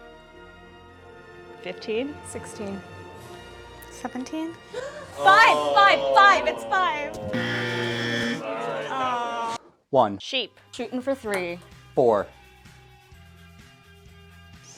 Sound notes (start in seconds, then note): 4.6 gasps; 7.3 buzzer